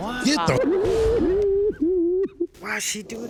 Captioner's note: sobbing